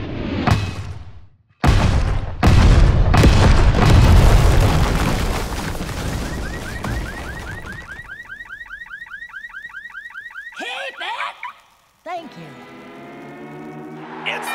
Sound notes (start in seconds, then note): 1.6 exploding; 5.9 car alarm blaring; 11.4 alarm stops